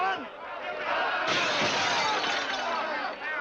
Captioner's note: glass smashes